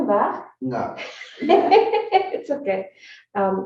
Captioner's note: laughs